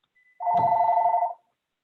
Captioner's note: telephone rings